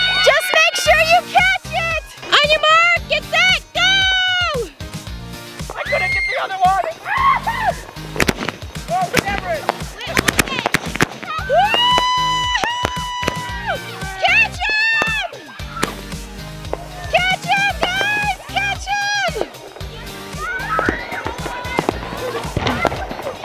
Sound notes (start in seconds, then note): 5.7 everyone screaming; 8.3 fireworks bursting; 19.8 kids screaming